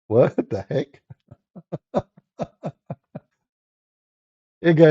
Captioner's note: Ketawa